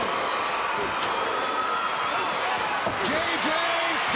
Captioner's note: crowd cheering